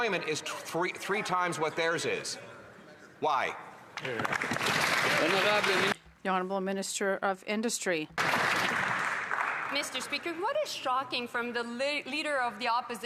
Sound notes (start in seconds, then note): 10.5 some Applause; 11.5 speaking French